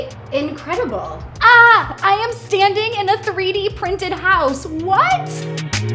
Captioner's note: shouts